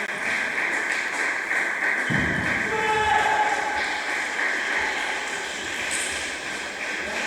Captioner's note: applause